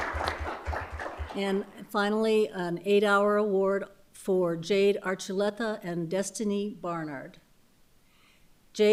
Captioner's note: applause